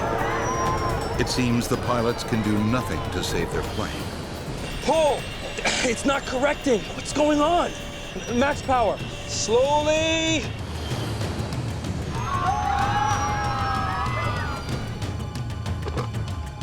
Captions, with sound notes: (passengers shouting) - [Voiceover] It seems the pilots can do nothing to save their plane. (engines whining) - Pull! - It's not correcting. - What's going on? - Max power! - Slowly. (passengers screaming)